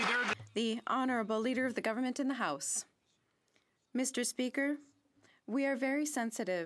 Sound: some Applause

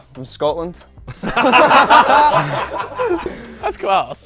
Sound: people laughing

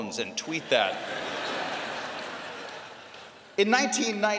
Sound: laughter

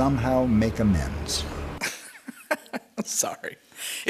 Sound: laughs

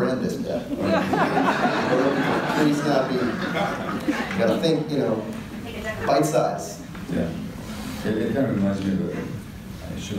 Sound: audience laughter

